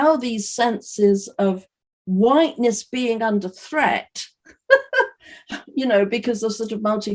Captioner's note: chuckles